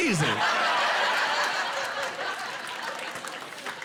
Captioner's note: laughing